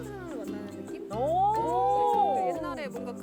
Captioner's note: whooo